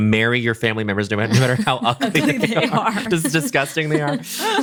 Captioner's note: laugh